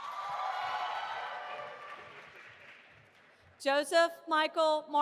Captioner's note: audience applauding and cheering